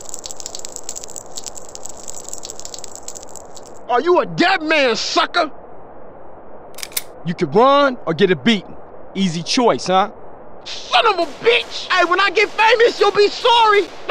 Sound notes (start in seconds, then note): 6.7 cocking Gun